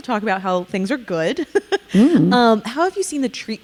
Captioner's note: chuckling